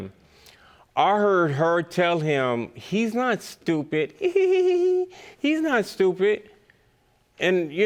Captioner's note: giggles